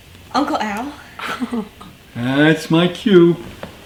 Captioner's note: morgan laughing